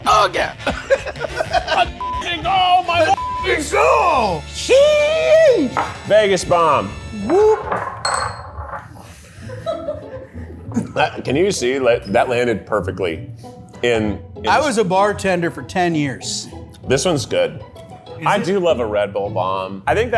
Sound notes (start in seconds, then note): 0.4 laughs; 10.6 crew member laughs